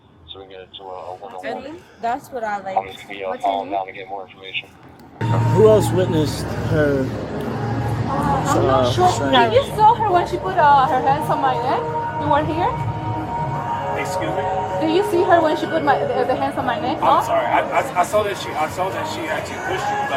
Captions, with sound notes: (Radio chatter) That's what I like What's your name? (Radio chatter) Who else witnessed her? Uh, I'm not sure Did you saw her when she put her hands on my neck? You weren't here? Excuse me? Did you see her when she put her hands on my neck? I'm sorry I saw that she actually pushed you